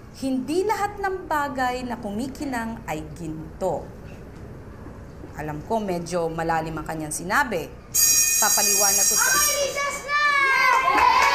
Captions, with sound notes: that not everything that glitters is gold. I know what he said was quite deep. -[bell ringing] -I'll explain it-- -Ma'am, it's recess! -[cheering]